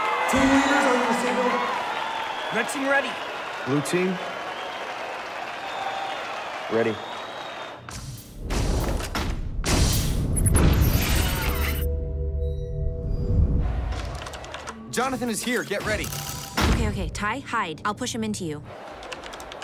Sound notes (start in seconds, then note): 0.0 crowd cheering; 7.9 readout sliding and beeping; 7.9 wind rushing; 18.9 keyboard clicking